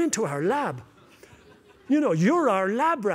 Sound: laughter

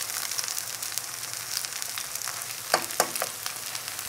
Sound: oil frying

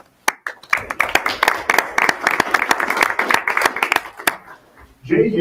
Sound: audience applauding

